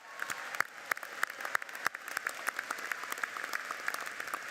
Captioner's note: audience applauds